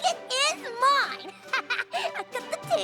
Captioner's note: laughs